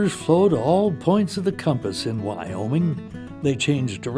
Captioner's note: voiceover